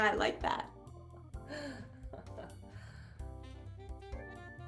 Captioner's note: laughs